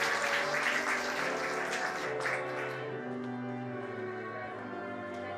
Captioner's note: applause